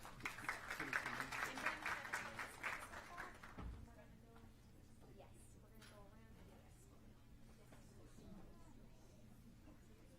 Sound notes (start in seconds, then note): 0.0 applause